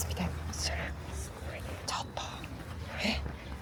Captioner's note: whisper